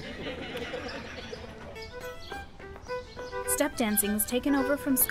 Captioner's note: everyone laughs